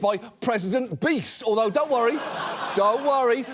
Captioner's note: audience laughs